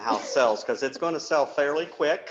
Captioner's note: chuckles